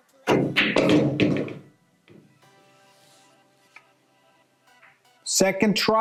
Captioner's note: pool balls clacking and thudding